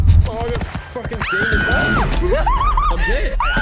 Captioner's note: screaming